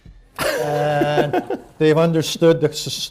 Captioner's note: laughter